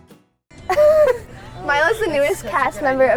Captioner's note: laughs